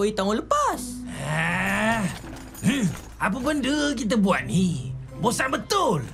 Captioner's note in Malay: mengeluh